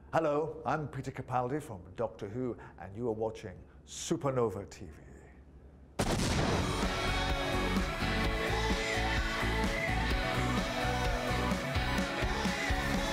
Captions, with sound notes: - Hello, I'm Peter Capaldi from Doctor Who, and you are watching Supanova TV. (explosion) (hip music)